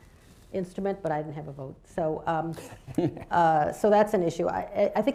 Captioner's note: laughter